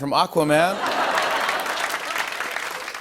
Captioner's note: laughter and applause